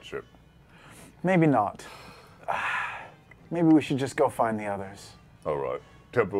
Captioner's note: sighs